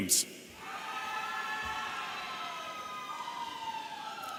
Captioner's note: audience cheering